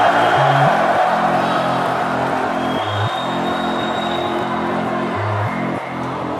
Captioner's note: crowd roars; upbeat music begins